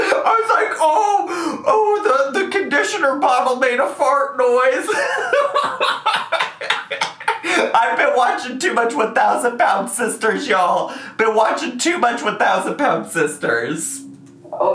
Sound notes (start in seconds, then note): 0.0 laughs; 4.8 laughs